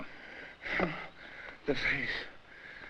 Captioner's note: Barney moans